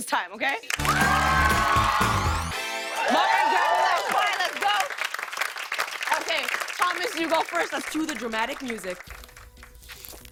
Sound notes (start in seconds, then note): 0.1 cheers and applause; 4.6 applause